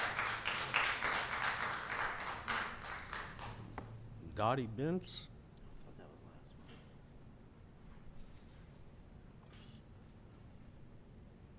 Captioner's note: applause